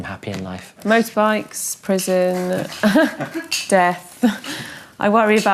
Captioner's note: dad laughing